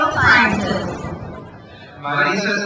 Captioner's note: crowd cheers